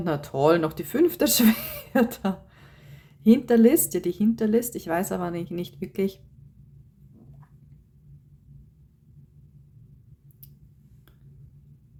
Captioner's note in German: gelächter